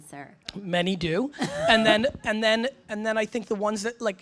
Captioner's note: laughs